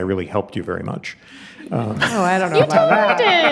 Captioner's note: audience chuckling